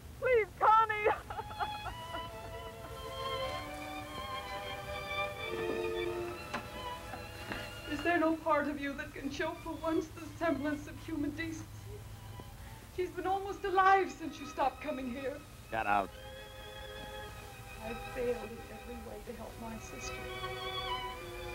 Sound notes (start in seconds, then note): 0.9 sobbing